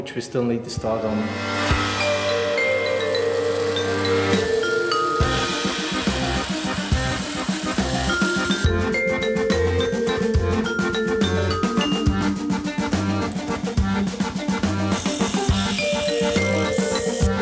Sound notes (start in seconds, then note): 5.1 bandsaw noises; 13.0 grinder noises; 17.2 sizzle